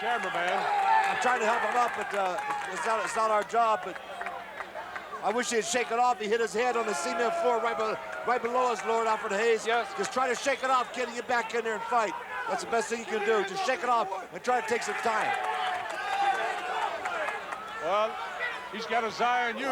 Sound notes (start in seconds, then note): 5.9 crowd cheers